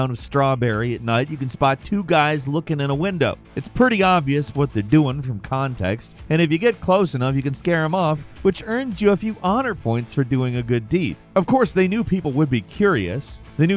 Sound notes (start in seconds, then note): none